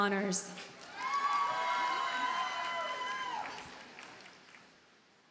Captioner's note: audience cheers and applauds